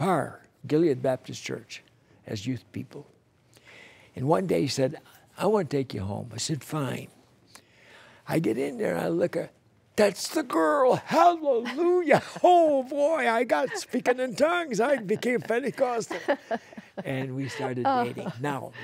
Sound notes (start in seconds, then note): 16.3 laughter